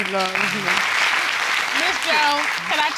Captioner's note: audience clapping